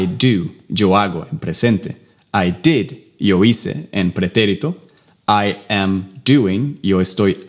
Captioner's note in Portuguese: Inglês